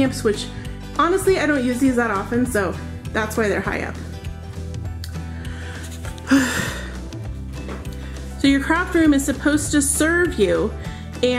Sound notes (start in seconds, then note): 5.3 sighs